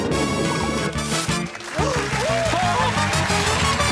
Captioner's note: gasps